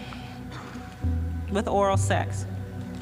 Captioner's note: exhales